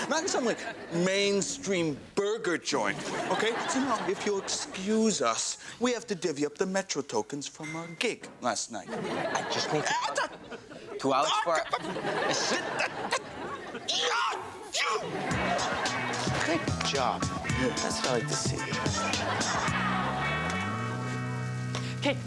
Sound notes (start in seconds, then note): 2.9 audience laughs; 9.4 audience laughs; 13.9 screams; 19.4 audience laughs; 19.4 upbeat music